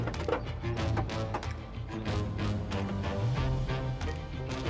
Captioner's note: door clicks; bold mysterious music